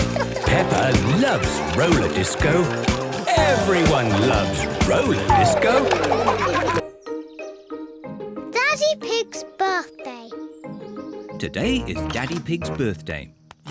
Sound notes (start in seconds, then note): 4.8 laughter